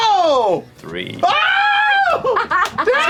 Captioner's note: shrieks; laughs